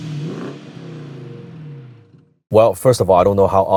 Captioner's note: engine revving